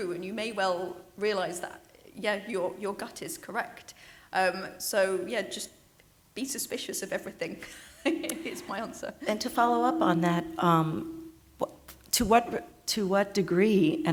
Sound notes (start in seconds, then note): 7.6 laughs